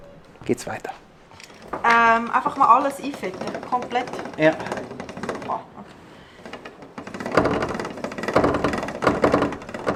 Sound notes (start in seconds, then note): 1.9 in Swiss German